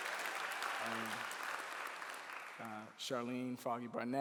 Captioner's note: clapping